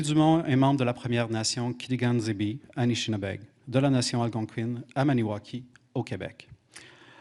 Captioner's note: speaking French